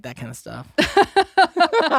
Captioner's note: both laughing